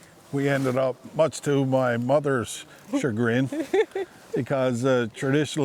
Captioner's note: laughing